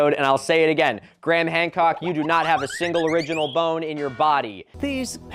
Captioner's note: cartoon tripping